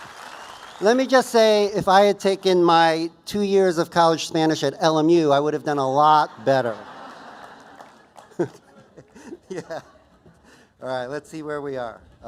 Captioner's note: aplausos; risas